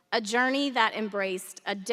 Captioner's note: none